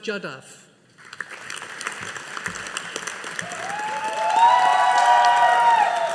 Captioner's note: audience applauding